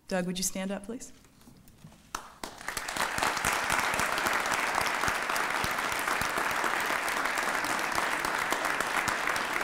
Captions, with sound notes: Doug, would you stand up please? [APPLAUSE]